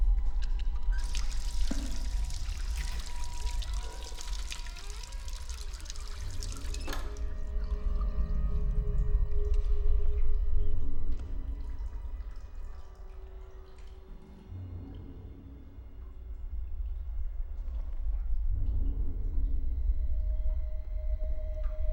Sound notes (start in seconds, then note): 1.0 faucet running; 3.8 door creaking; 6.6 faucet stops; 9.6 brooding music